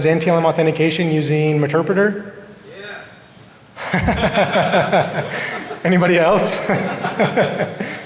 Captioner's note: laughter